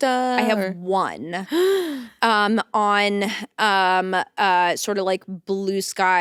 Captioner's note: gasps